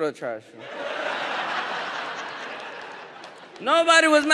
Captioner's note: audience laughs